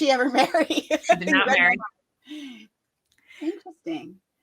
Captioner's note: laughs